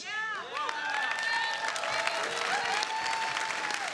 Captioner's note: audience cheering